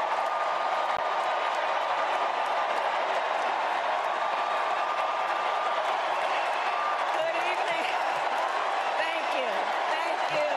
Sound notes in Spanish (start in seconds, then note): 0.9 gritos; 5.2 aplausos